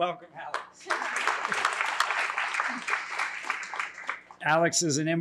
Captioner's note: applause